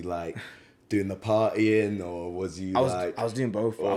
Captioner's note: laughs